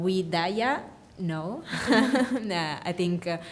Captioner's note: laughing